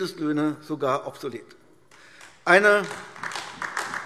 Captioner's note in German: Beifall AfD